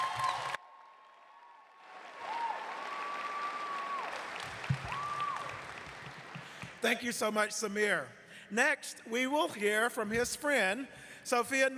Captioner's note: cheers and applause